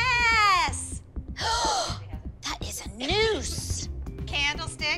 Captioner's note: gasps